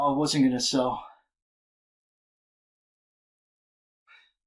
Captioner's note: long silence; short breaths